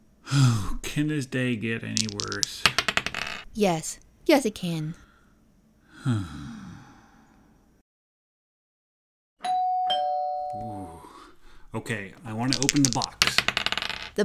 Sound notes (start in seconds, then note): 1.9 sounds of dice being shaken and thrown; 5.8 sigh; 9.4 door bell ring; 12.2 sounds of dice being shaken and thrown